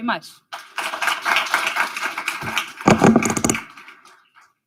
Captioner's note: audience applauding